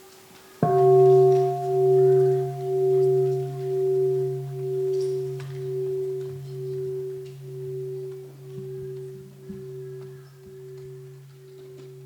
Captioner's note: sound of the bell